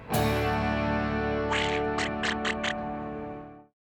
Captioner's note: Donald Duck laughing